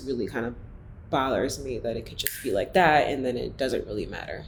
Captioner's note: snaps